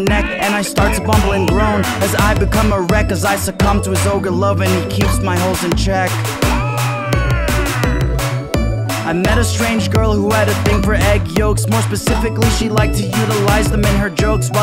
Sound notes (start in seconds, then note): 6.5 ahhh!